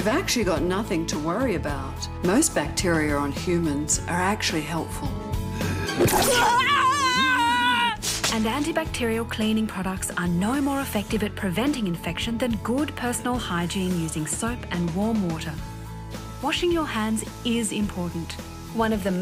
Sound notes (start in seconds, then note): 5.7 retches; 6.1 screams